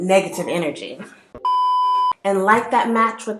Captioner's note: broken TV Sound